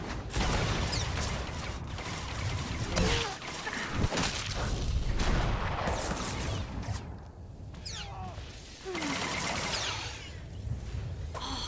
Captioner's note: gun firing